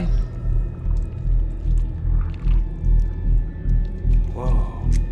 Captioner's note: tense music; flesh squelching